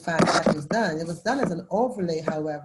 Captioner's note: electronic interference